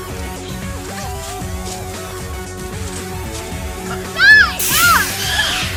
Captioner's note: running; creature squeals; hiss of sprayer